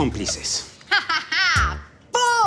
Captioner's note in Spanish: Carcajadas